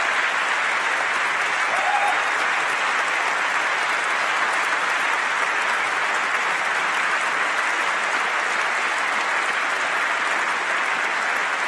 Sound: applause

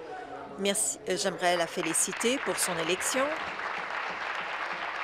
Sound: applause

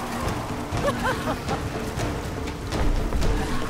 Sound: laughs

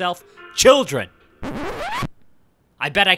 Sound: record scratch

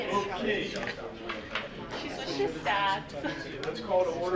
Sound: people chattering

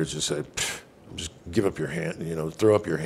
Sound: scoffs

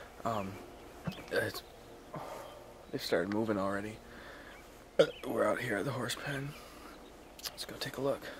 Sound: burps

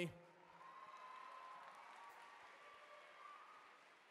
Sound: cheering

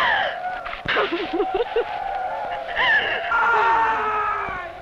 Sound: Angelica gasps; Angelica sobs

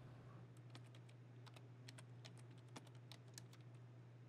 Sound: keyboard clacking

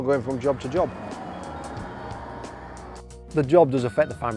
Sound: vehicle revving

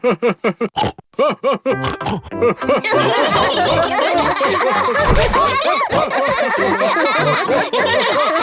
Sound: laughter; Сміх

